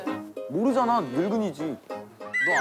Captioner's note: oof